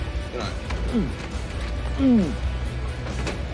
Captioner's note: imitates retching